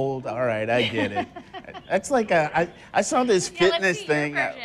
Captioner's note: laughter